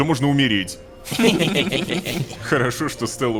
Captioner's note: employees’ laughter